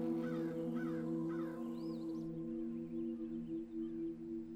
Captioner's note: birds chirping